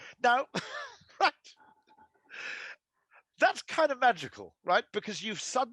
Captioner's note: Rory laughing